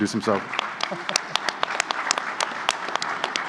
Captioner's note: applause